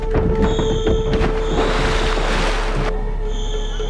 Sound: shrieking in distance

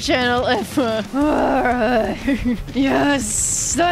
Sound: malicious growling

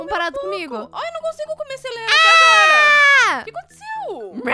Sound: screams

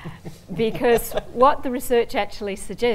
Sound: laughter

